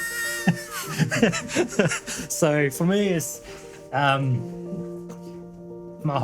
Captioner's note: laughing